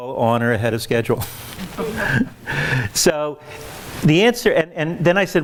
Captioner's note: laughs